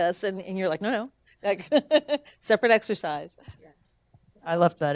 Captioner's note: laughing